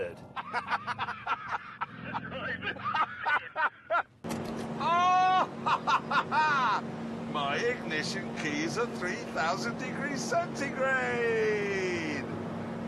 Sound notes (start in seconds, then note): 0.3 laughter; 4.3 keys jangle